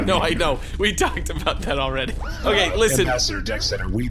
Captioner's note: laughing; whirring as he turns his head